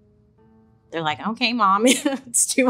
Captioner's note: laughs